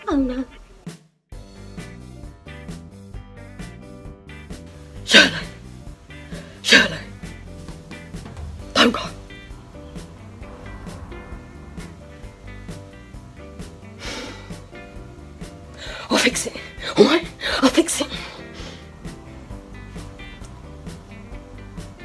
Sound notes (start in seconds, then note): 1.4 upbeat music; 13.8 sighs; 19.3 upbeat music